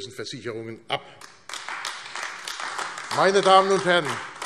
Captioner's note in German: Beifall AfD